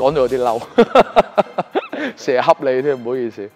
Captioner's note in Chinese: 狂笑